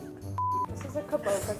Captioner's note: beeping